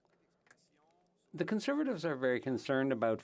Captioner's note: speaking French